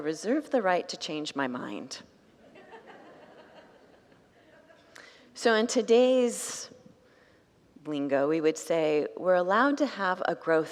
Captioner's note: congregants laugh